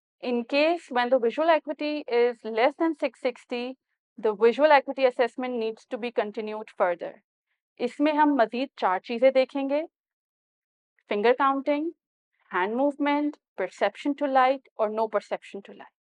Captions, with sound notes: In case, when the visual acuity is less than 6/60, the visual acuity assessment needs to be continued further [In Urdu] In this, we will look for 4 additional findings Finger counting, hand movement, perception to light, or no perception to light